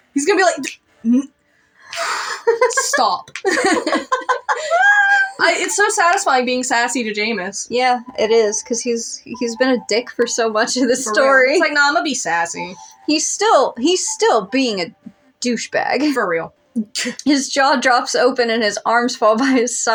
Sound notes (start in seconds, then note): 1.2 stutter; 1.9 sigh; 2.4 laugh; 3.4 both Laugh; 15.7 chuckle